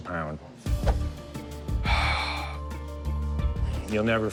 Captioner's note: sigh